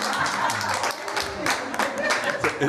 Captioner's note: applause